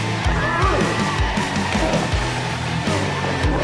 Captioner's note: Tecolote grunts as he goes down